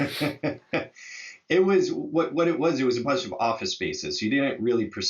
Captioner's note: laughs